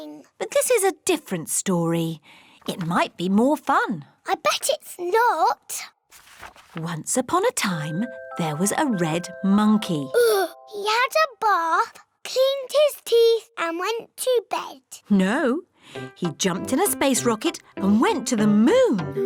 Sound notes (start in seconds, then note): 10.2 sighs